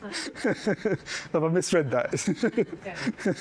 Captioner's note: laughs